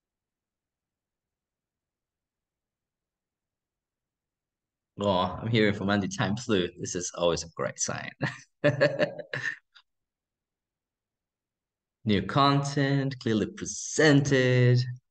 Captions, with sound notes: Oh, I'm hearing from (speaking faintly). This is always a great sign. New content, clearly presented.